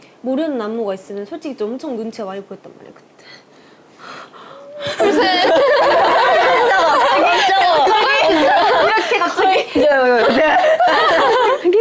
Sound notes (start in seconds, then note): 4.2 suddenly tearing up; 4.6 tears